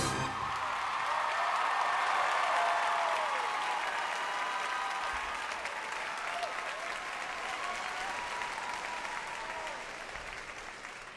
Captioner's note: cheers and applause